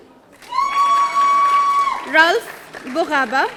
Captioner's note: audience cheering